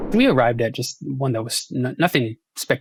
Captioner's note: graphics whooshing